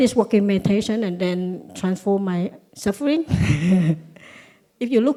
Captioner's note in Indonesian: Suara tertawa